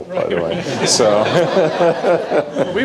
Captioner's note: laughter